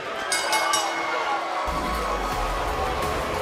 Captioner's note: bell; cheers & applause